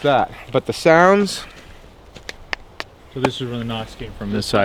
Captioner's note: mimics knocks